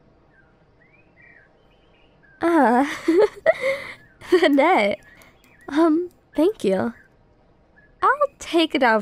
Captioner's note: soft laugh